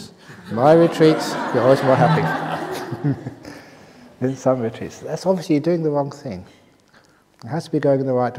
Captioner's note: laughter